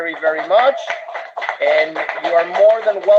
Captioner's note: applause